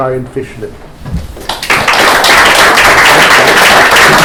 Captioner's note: applause